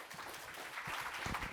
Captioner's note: applause